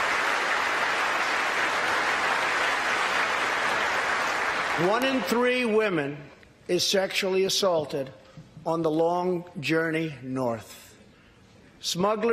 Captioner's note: applause